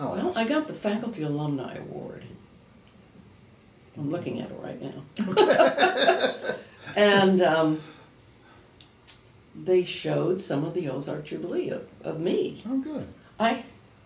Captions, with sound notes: - I got the faculty alumni award, I'm looking at it right now. (laughs) And they showed some of the Ozark Jubilee of me.